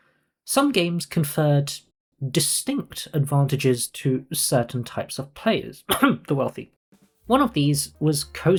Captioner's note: cough